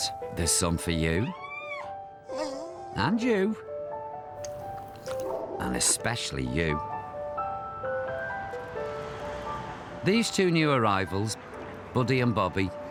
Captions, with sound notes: There's some for you. [dog whines] And you. And especially you. These two new arrivals, Buddy and Bobby,